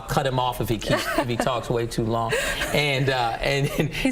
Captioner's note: laughing